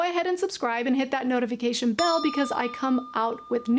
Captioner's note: bell rings